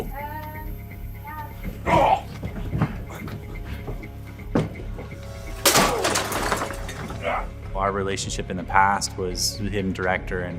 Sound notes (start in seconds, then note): 1.8 Jason grunts; 5.4 lamp shatters